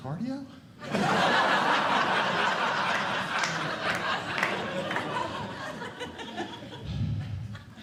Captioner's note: audience Laughing